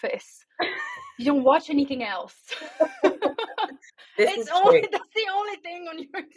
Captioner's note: laughing